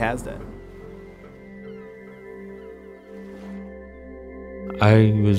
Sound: peaceful music; seagulls calling

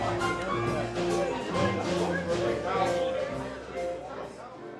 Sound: people chattering

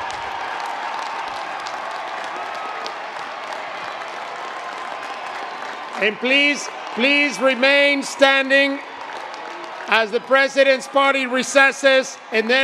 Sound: applause

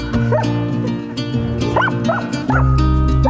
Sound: Vilk barking

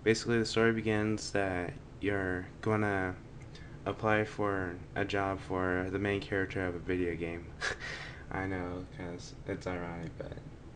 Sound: chuckles

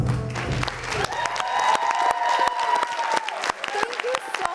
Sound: crowd cheering and clapping

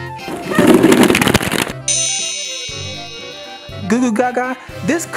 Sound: balls tumbling; chiming

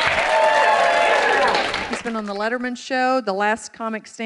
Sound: cheers and applause

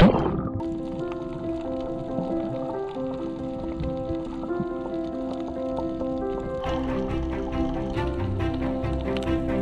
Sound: underwater sounds; upbeat music playing

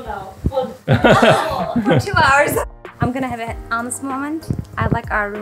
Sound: laughter

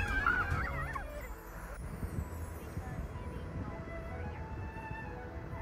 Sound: upbeat music plays; water splashes

